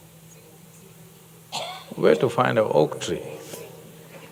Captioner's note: laughs